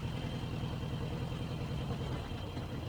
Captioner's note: engine idles